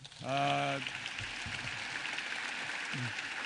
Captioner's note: applause